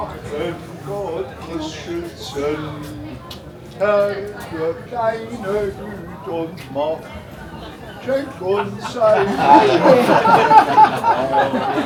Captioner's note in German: gelächter